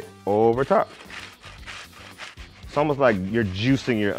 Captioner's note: grater scratching